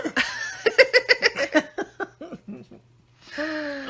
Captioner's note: laughing